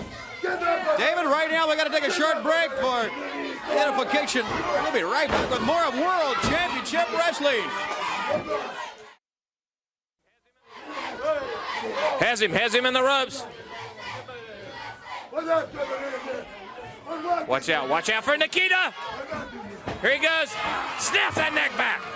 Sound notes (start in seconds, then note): 10.7 crowd cheering; 14.8 crowd chatter